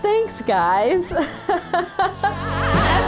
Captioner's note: laughs